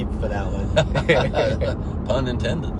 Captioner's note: laughs